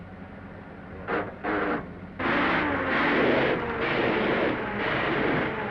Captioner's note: engine sputtering